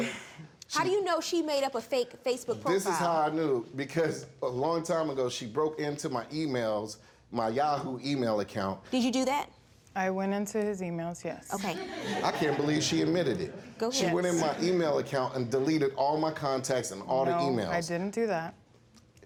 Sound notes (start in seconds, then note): 11.6 audience laughing